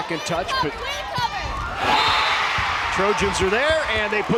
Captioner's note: crowd and players cheering